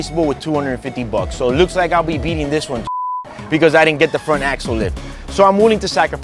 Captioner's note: beeping